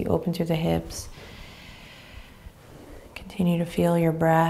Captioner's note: inhaling deeply